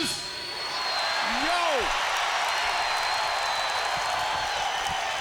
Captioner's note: crowd cheers